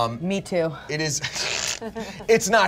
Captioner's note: laughs